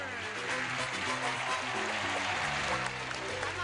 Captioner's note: applause